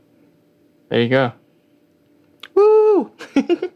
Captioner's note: laughter